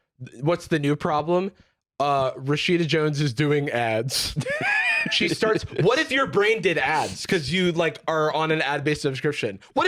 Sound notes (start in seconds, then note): 4.2 laughs